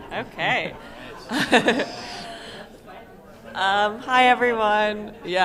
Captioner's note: laughter